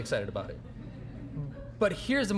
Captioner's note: audience chuckling